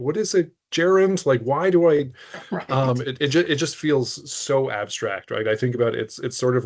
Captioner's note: laughing